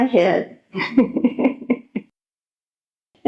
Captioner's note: laughs